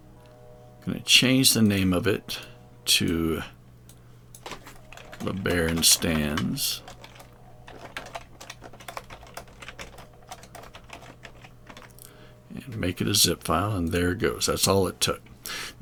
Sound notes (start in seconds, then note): 7.6 keyboard clicking